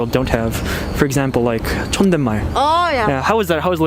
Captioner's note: formal speech